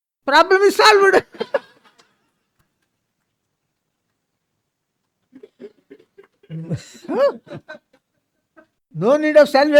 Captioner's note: laughs